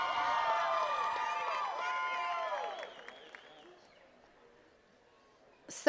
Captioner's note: attendees cheering and clapping